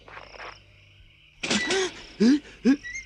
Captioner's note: gate clicks and creaks open; Toad breathes heavily